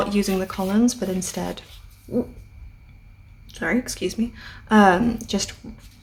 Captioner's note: thoat noise